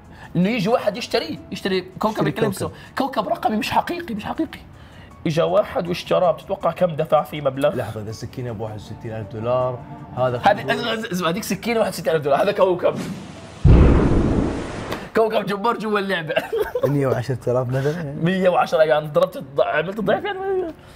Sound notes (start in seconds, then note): 13.6 explosion sound; 16.4 laughs